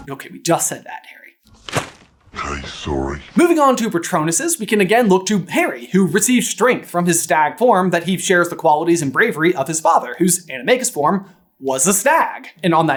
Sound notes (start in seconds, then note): 1.6 thwap